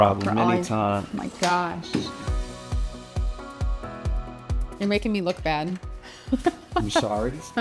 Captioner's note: laughs